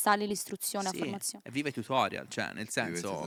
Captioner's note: laughing